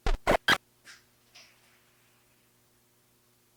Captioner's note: static crackling